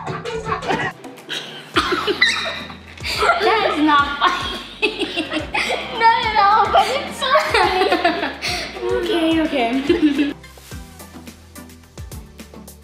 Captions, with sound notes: (Laughter...) That is not funny. (Laughter continues...) Not at all. It's so funny. Okay, okay.